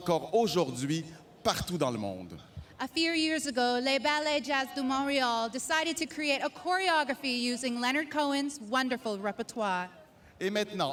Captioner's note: speaking French